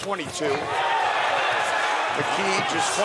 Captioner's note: audience cheering